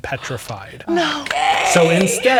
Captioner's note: gasps